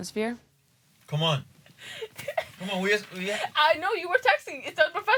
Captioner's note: Lele laughing